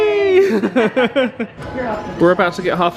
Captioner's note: both laugh